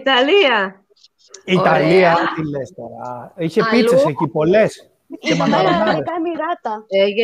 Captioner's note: Γέλια